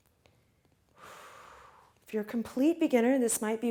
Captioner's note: breathes out heavily